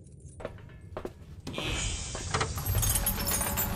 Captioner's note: alarm buzzing; air hissing; chains clanking; alarm wailing